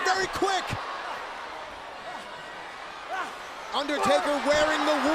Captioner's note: crowd cheering